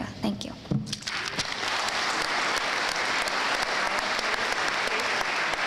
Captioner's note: audience applauding